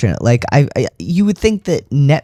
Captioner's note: none